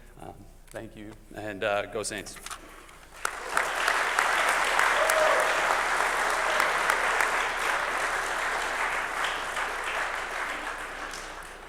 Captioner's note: applause